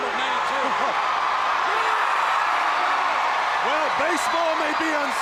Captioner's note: crowd cheering